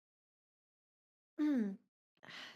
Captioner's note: clears throat; sighs